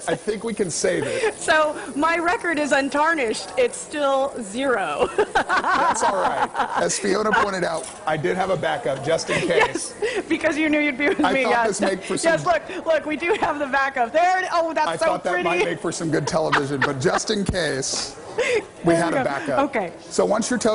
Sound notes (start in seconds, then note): 13.2 laughter